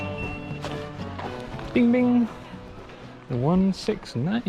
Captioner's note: GARMIN chimes